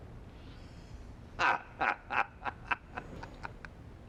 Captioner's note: laughs